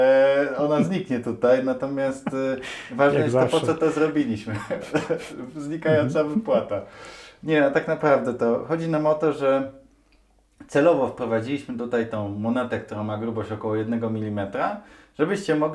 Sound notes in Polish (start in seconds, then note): 5.1 śmiech; 7.0 parsknięcie